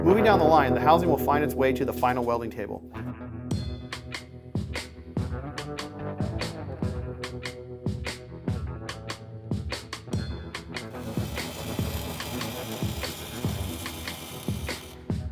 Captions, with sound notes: Moving down the line the housing will find its way to the final welding table. (welding buzzing)